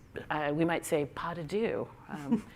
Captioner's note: french